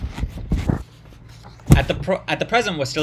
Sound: paper noises, apologies

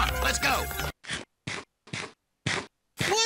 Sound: chomps

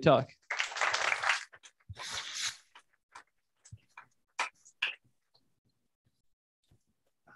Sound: applause

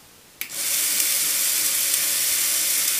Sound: motor starts

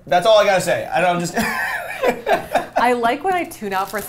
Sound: laughing

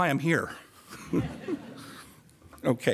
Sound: chuckles and the audience laughs with him

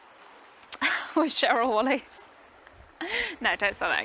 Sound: laughs

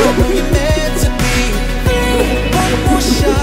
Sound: laughing

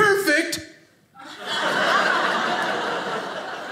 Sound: audience laughing

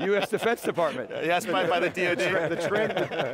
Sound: laughing

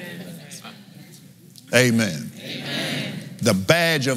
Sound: laughs

